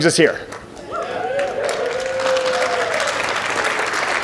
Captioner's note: audience applauds